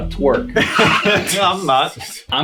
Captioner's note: all laughing